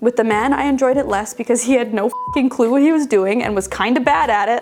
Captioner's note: beeping